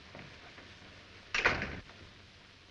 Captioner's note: door closes